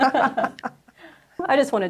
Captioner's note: laughs